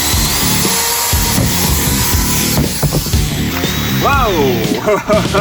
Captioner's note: upbeat rock music; machine hissing; laughing